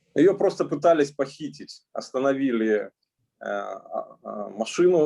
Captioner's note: speaking Russian language